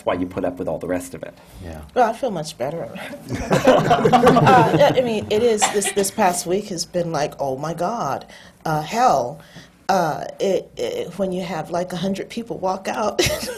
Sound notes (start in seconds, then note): 3.1 laughter; 12.7 laughs